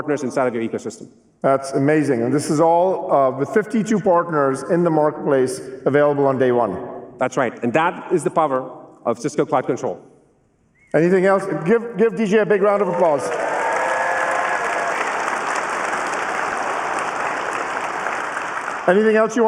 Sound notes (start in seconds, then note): 12.7 applause